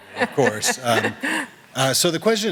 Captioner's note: laughter